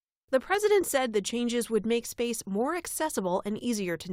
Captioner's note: voice-over